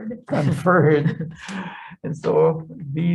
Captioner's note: laughs